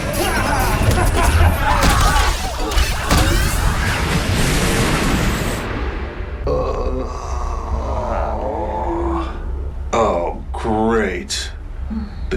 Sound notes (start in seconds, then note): 0.0 all grunting; 6.4 groans